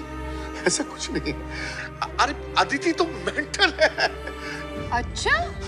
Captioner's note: Laughs